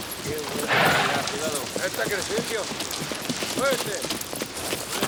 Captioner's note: gang members chatter